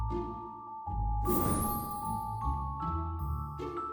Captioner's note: whoosh